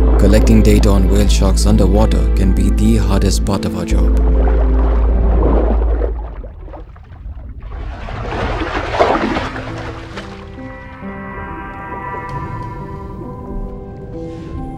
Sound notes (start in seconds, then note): 0.0 somber piano music; 7.9 water splashing; 11.2 somber piano music